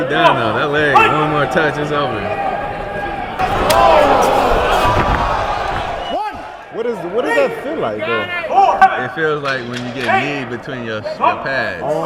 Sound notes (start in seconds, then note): 3.4 contender thudding